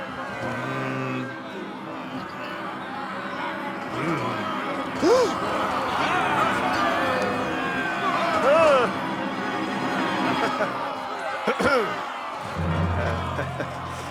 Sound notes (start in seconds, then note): 1.6 angry crowd noise; 11.4 clears throat